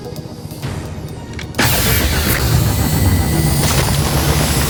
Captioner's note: weapon firing